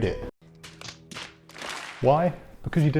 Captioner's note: palms slapping forehead